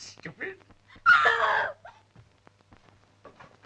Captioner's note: screaming